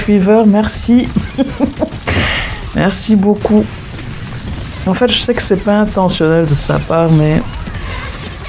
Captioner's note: laughs